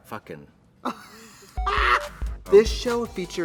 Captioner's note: Trixie laughs